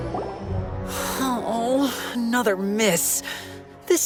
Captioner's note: sigh